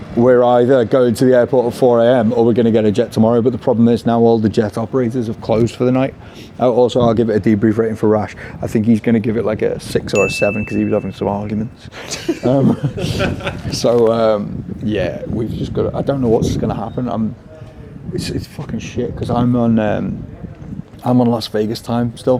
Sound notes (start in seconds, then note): 12.0 all laughing